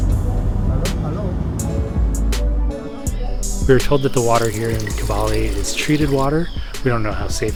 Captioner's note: water running